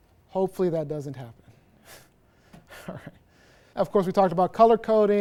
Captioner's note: laughter